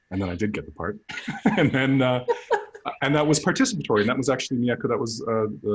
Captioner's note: laughter